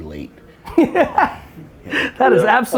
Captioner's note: Gary laughs